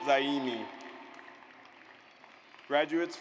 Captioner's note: audience applauds